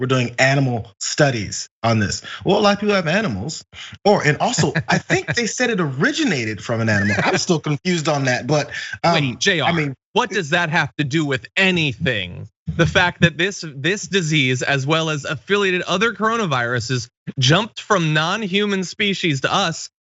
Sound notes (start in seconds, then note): 3.7 laugh